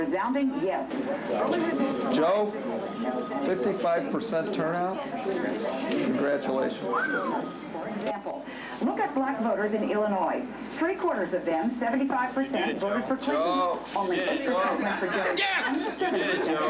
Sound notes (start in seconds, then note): 6.4 phone ringing; 6.9 whistle